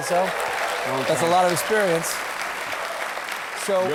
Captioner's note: applause